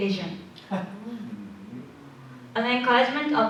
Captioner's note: laughter